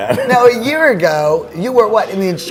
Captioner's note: chuckles